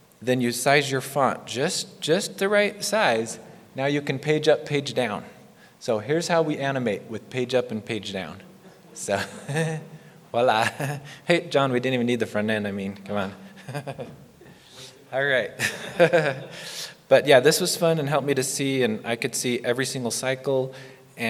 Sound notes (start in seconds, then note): 15.6 laughs